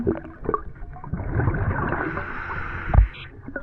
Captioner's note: water sloshing